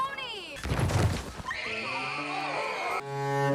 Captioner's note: crowd screaming; tragic music